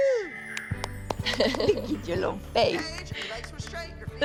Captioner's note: laughs